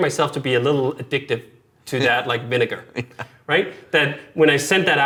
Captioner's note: laughs